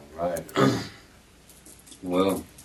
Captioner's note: clears throat